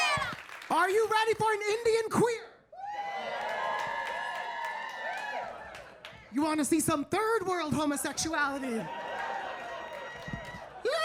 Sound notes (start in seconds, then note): 2.8 audience cheering; 8.4 audience cheering; 10.8 singing